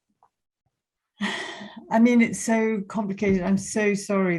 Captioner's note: sighs